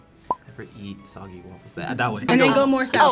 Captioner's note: bubble pops